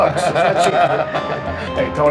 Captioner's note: laughing